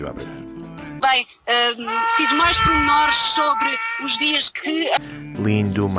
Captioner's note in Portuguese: grito ao telemóvel continuando até o final do clip